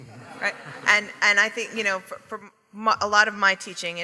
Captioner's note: audience laughing